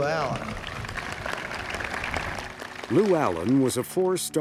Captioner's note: people applauding